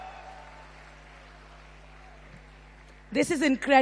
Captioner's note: तालियां